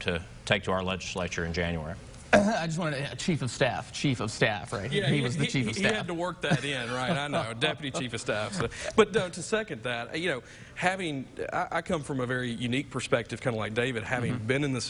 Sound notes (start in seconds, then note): 2.3 throat clearing; 9.2 laughing